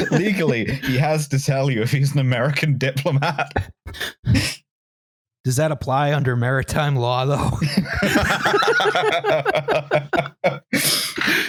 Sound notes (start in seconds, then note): 7.6 laughter